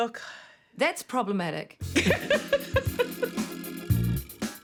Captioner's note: laughter